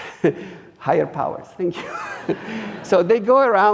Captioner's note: audience laughing